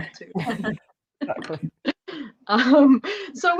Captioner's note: laughter